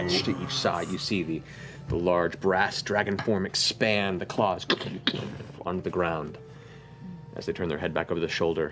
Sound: impact

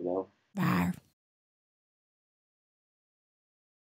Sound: roar

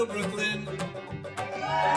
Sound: cheering and applause

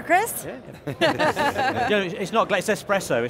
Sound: all laugh

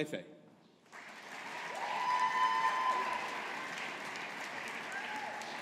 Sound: audience applauding

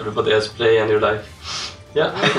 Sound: sniff

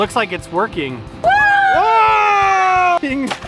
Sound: group whoooing!; balloon sploshing & man laughing

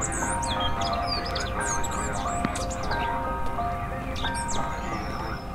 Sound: footsteps clicking on tar

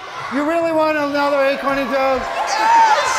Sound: all cheering

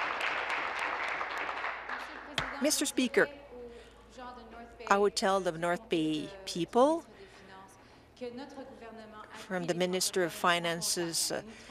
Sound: applause

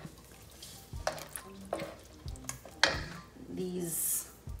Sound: spoon scraping

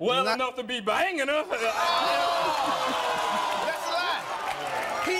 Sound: cheers

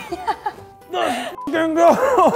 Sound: grunts; laughing

